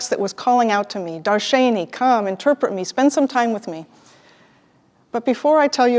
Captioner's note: Hebrew